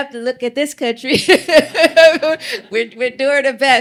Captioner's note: laughter